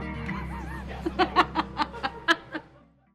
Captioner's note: laughs